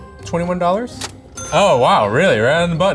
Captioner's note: money cha-chings